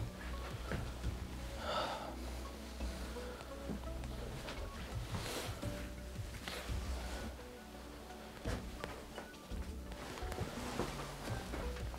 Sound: sigh

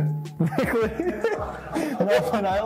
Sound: laughter

